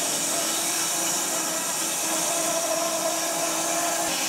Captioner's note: saw whirring